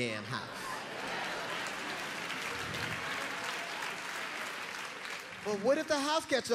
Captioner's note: crowd laughing and cheering